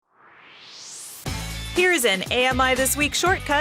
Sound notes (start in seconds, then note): 0.0 swoosh